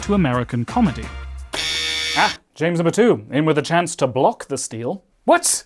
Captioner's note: buzzer